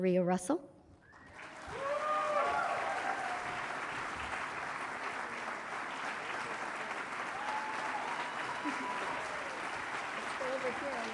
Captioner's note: applause